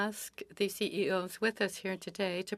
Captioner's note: speaking French